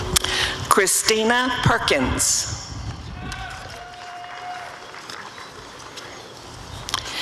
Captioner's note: applause and cheering